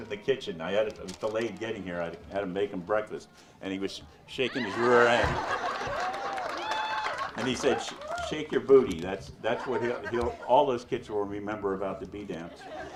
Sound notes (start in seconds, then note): 4.6 audience laughs; 6.0 audience member cheers